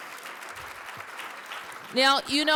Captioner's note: applause